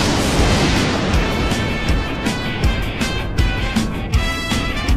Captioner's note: none